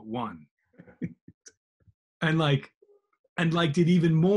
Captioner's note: laughing softly